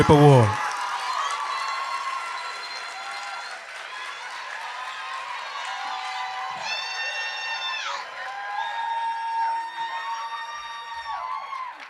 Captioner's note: applause